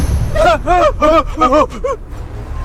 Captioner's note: screaming